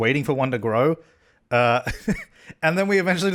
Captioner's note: laughs